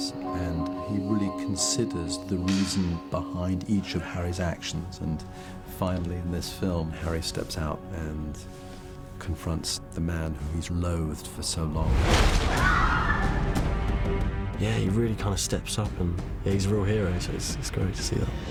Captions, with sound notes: ...and he really considers the reason behind each of Harry's actions... ...and finally, in this film, Harry steps out... ...and confronts the man who he's loathed for so long. [STUDENTS YELL] Yeah, he really steps up. He's a real hero, so it's great to see that.